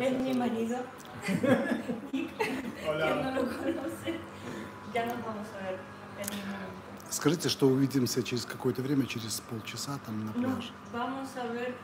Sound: laughs

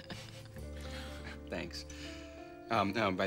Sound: <i> chuckling</i>

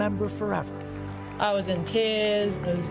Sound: cheers

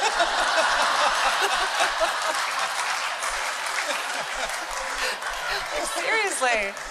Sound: laughter and applause

